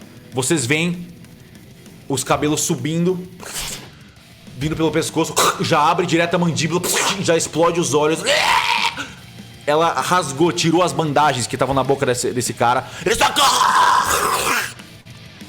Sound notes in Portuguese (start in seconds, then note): 8.0 gritos de agonia; 12.8 agonizando